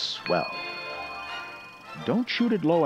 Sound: ding

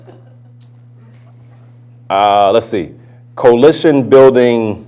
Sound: laughter

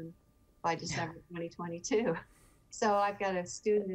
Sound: chuckling

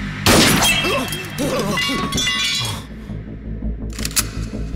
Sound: gun FIre

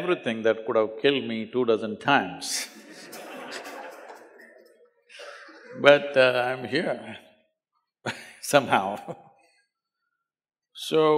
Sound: laughs

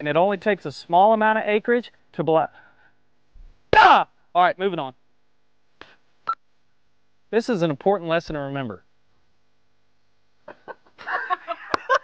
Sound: laughter

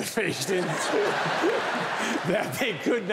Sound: audience laughing; laughs

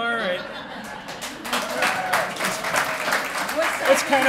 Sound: applause

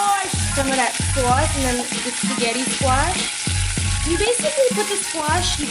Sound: pan sizzling

